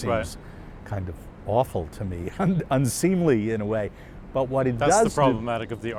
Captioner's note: laughs